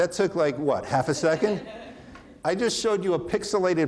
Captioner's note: audience laughing